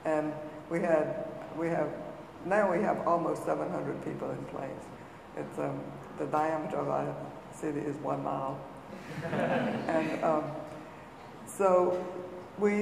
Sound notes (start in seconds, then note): 9.0 audience laughing